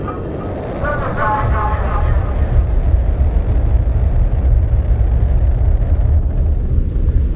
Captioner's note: ship taking off